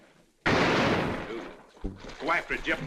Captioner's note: gunshot